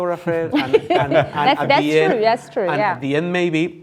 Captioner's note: laughing